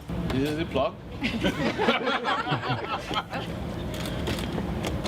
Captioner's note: kalabalık gülüyor